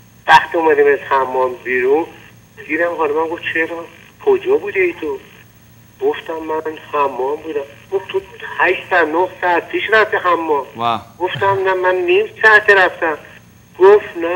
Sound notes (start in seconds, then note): 0.8 speaking in foreign language